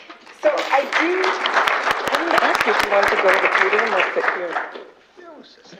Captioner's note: applause